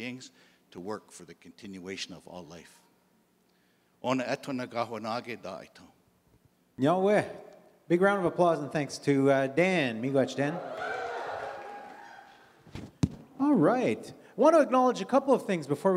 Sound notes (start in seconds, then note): 3.4 in Indigenous language; 9.9 crowd cheers